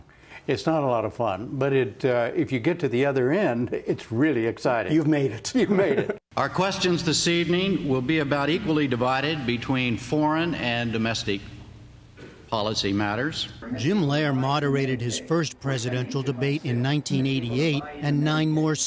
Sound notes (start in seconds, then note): 5.6 laughter